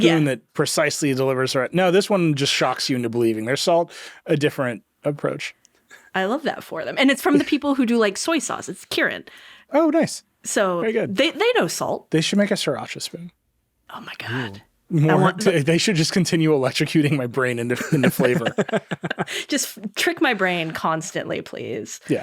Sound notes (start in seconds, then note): 17.5 chuckling